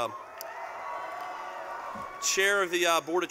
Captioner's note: cheering